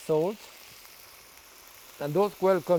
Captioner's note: pan sizzling